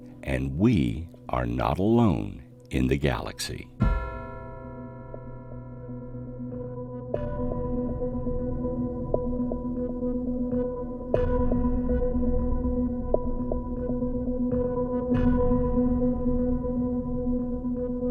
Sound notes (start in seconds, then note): 3.9 ghostly bell toning; 4.3 eerie music